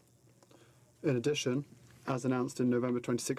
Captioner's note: speaking in french